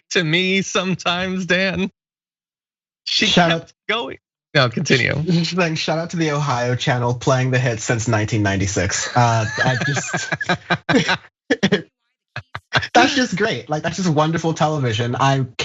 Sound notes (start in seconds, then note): 10.4 laugh